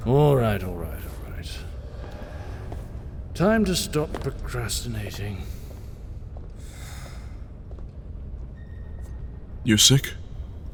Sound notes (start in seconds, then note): 5.3 footsteps receding; 7.5 exhales